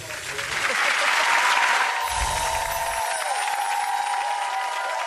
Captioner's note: audience cheers